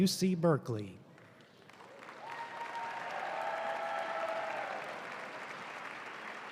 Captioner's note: audience cheering and applauding